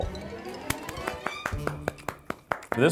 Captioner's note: clapping